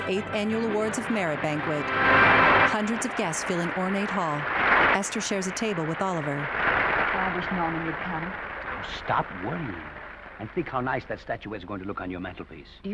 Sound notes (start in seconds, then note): 0.6 audience applauding